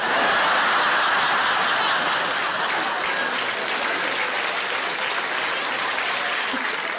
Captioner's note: audience laughing; audience applauding